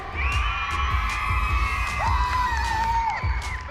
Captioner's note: cheering